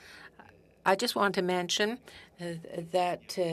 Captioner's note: speaking French